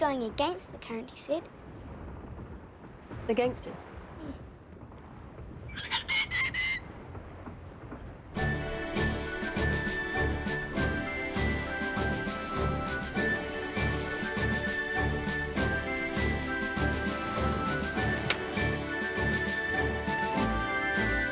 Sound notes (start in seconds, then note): 5.9 Captain Flint squawking; 8.5 adventurous music